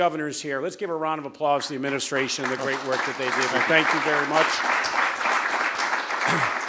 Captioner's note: applause